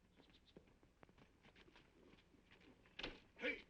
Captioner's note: horse hooves clopping